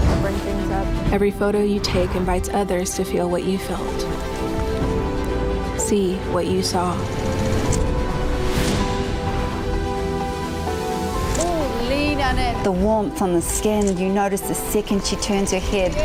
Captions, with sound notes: Bring things up. Every photo you take invites others to feel what you felt, see what you saw. (shutter snaps) - Ooh, lean on it. The warmth on the skin you notice the second she turns her head.